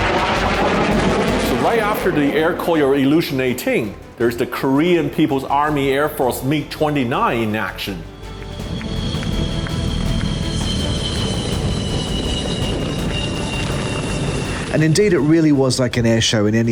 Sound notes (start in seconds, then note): 8.8 plane engine roaring; 10.1 crowd clapping